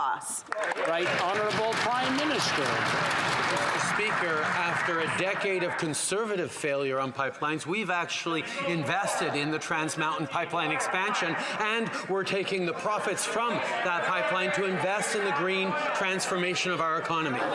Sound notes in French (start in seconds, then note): 7.7 voix de l'interprète